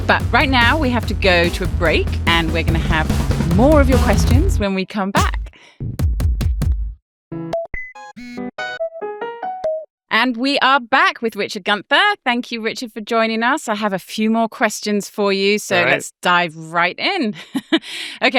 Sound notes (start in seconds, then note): 5.9 drum thumping; 7.4 melodic digital trilling